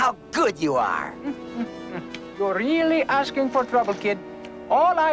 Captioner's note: sighs of pity